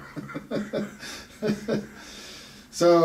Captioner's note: both laugh